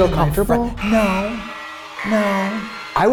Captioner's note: alarm buzzes